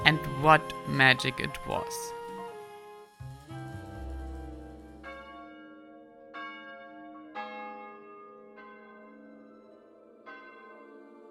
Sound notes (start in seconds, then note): 2.4 tranquil music; 6.3 bells ringing